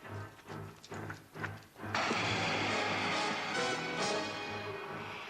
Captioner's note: dramatic music; footsteps shuffling; undead moaning